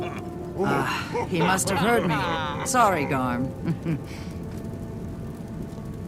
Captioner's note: laugh